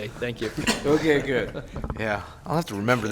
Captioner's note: laughter